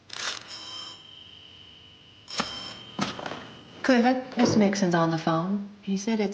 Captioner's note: telephone rings